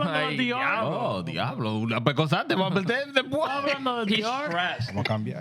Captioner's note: speaking Spanish